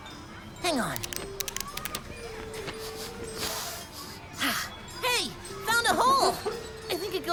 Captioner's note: scampers over to the side of the temple, sniff sniffs